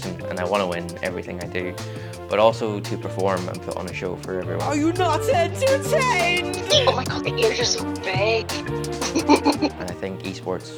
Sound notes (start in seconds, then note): 9.4 laughs